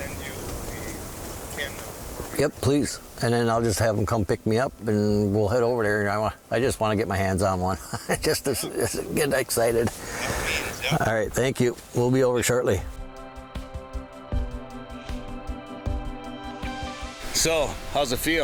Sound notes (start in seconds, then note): 9.6 laughs; 15.9 bright music